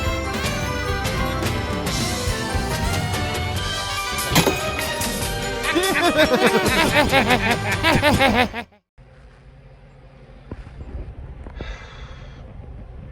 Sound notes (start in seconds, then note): 4.1 spits; 5.6 laughs